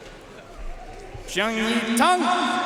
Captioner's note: audience cheering and applauding